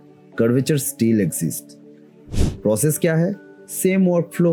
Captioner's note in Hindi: नाक से की जाने वाली आवाज़